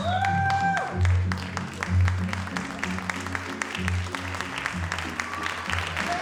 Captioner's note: audience cheers and applauds